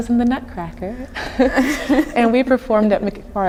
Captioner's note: laughing